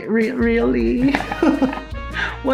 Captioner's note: chuckles